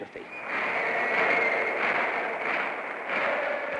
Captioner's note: chanting